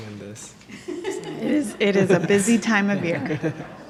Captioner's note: laughter